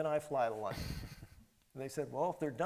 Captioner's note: chuckles